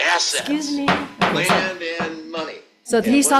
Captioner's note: gavel bangs